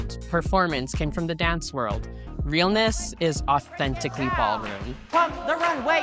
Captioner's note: chanting